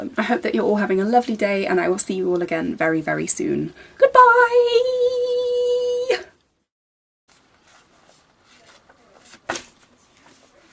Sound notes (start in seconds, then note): 8.7 dropped book noise